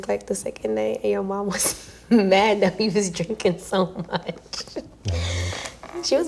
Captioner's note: laughs